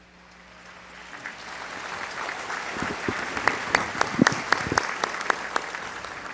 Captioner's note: applause